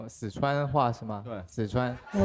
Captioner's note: mimicking the accent